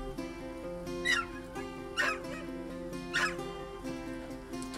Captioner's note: moves into slow soft music; dogs yelping